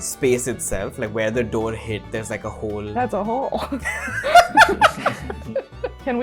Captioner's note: laughter